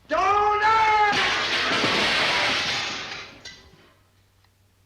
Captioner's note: glass shatters